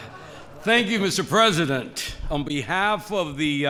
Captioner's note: laughs